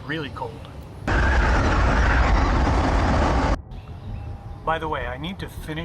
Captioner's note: harsh wind